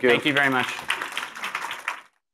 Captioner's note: applause